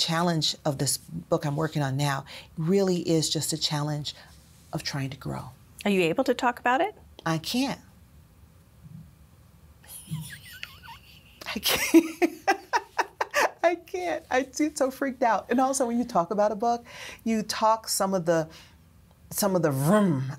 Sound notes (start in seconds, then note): 10.0 mutual laughter